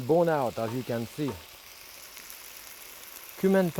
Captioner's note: pan sizzling